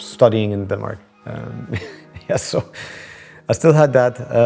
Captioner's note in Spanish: se ríe